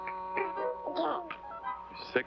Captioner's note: baby burbles